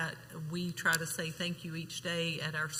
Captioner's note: none